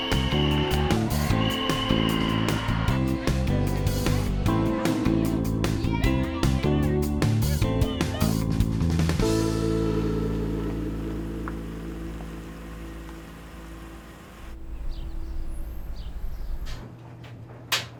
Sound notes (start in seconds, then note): 0.0 crowd cheering; 7.3 girls celebrating; 17.4 dryer running